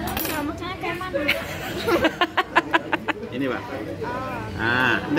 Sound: laughing

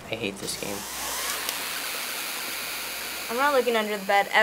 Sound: sharp distorted buzzing

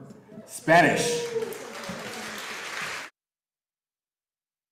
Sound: audience applauding

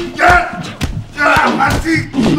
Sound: hitting

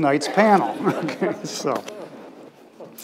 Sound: laughs

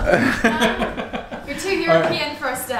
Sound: laughs

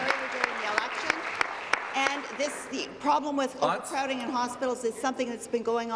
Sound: applause

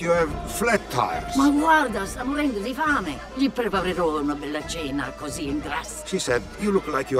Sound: speaking in foreign language

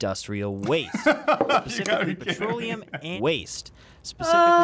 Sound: laughs

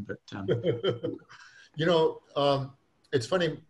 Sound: laughs

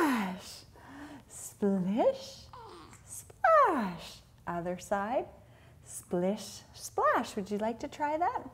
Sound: none

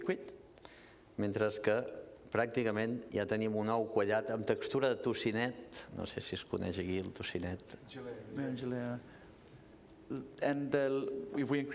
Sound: speaking catalan

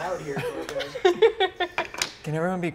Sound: laughing

